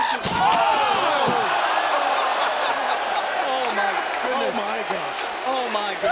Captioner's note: laugh